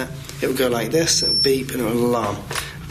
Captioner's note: high pitched beep